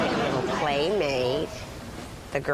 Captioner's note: laughter